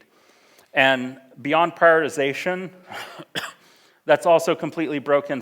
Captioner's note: coughs